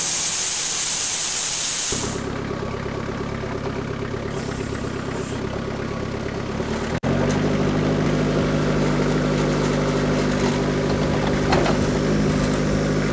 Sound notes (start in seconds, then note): 1.9 skid steer engine humming; 6.5 skid steer engine revving